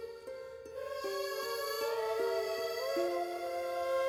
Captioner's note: emotive vocalisation